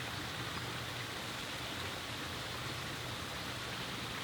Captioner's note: stream flowing